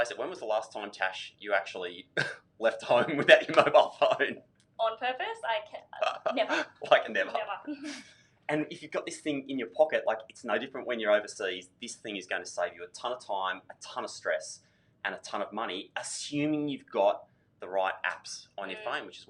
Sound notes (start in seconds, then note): 2.8 laughing; 6.0 laughing